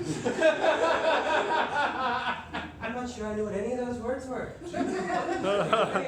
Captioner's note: laughter